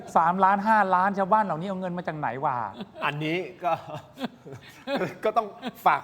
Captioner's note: laughs